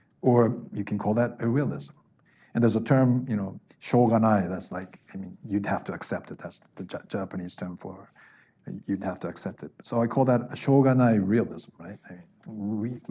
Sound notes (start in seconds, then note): 3.9 speaking Japanese; 10.8 speaking Japanese